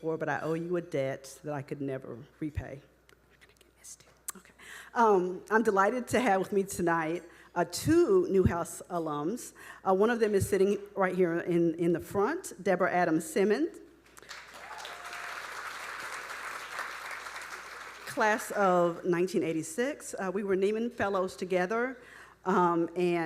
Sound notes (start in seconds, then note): 3.4 speaking faintly; 14.2 audience applauding